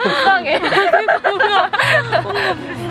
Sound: laugh

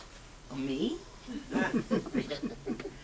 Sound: audience chuckles

